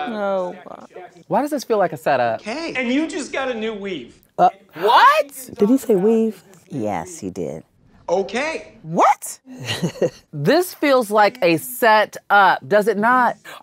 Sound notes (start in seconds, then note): 9.5 laughs